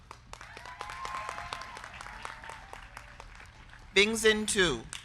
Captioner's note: crowd clapping; crowd cheering